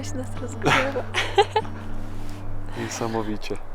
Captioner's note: laughs